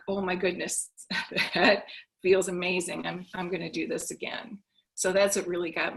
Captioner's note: chuckles